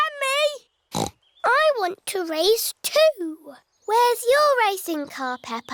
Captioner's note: snorts